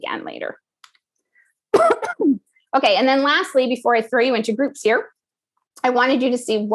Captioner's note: cough